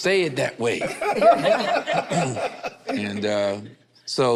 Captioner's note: group laughs